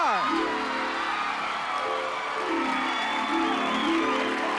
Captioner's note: applause